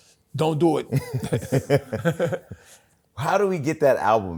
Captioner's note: laughs; laughter